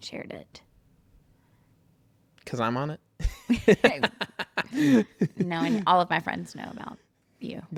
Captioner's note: laughs